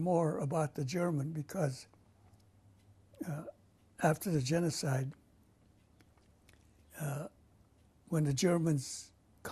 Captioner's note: pauses for 3 seconds